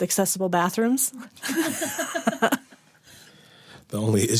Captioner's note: laughter